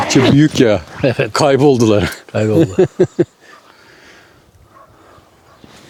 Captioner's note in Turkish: kahkaha